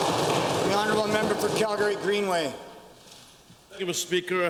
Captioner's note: applause